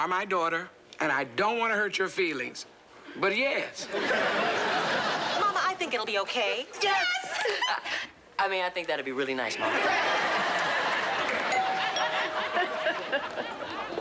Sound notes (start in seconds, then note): 11.2 doorbell rings